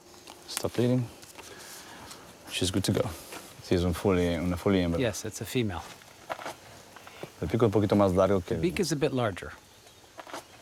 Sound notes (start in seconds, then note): 3.4 speaks in foreign language